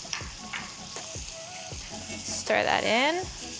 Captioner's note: mixture sizzles